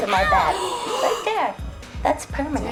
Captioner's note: everyone gasps